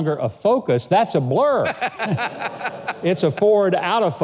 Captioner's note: man laughing